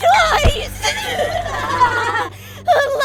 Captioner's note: glitchy laughter